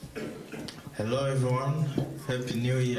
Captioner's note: with Congo French accent